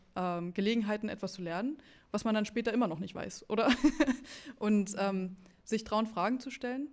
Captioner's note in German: gelächter